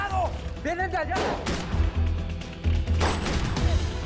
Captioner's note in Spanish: Disparos